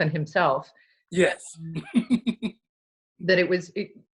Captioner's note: laughs